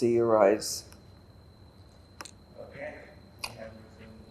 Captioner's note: drinking